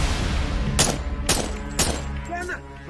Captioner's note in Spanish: Disparos